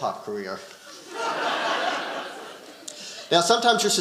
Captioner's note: audience laughing